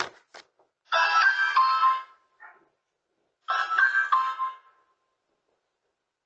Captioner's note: ring doorbell